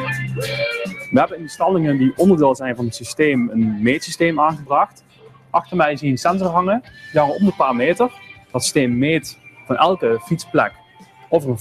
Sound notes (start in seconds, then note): 0.6 speaking dutch